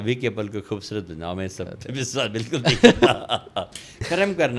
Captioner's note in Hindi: हंसी